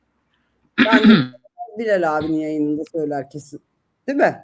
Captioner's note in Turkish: boğazını temizler